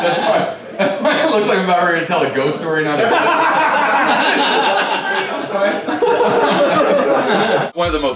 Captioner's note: laughter